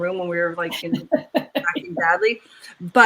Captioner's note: laughs